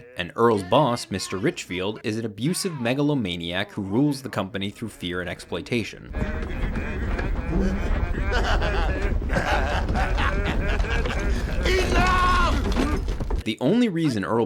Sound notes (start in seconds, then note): 5.2 workers humming; 6.4 office rumbling; 8.7 Mr. Richfield laughing